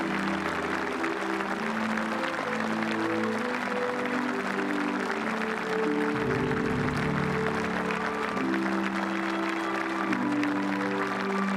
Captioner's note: applause